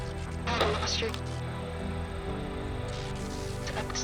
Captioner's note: radio chattering